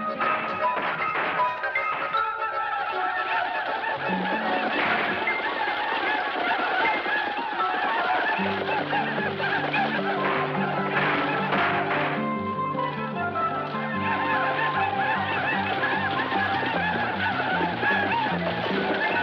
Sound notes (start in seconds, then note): 0.6 gunfire banging; 4.7 gunfire banging; 4.8 Apaches ululating; 14.6 Apaches ululating